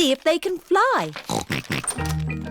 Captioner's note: snorting